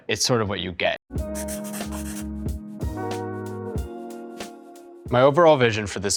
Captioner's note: upbeat music; pencil scribbling